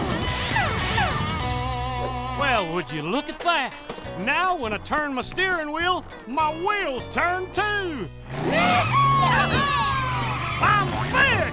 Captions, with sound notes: Well, would you look at that? Now when I turn my steering wheel, my wheels turn too! [cheering] I'm fixed!